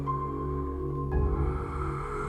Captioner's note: heavy breathing